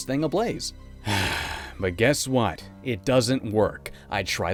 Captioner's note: sigh